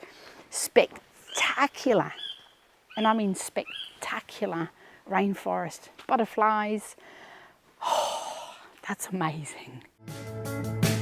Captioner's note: bird chirping